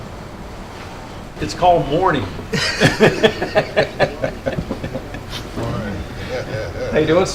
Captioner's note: laughter